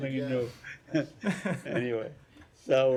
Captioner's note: laughter